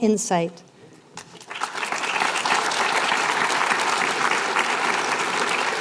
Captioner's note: applause